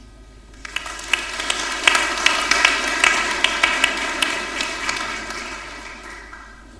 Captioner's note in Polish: oklaski